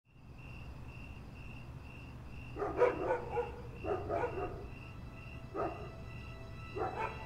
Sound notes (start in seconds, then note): 0.7 nighttime sounds of dogs barking and crickets